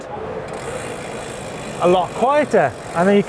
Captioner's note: wheels spinning